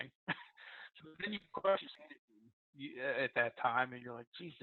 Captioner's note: laughs softly; audio cuts out